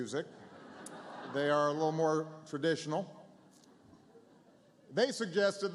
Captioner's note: laughter